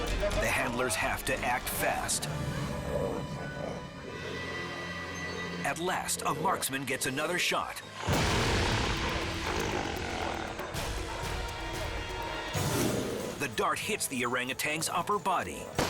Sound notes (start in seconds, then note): 8.0 orangutan snarling; 8.0 dramatic effect booms; 15.7 gun pops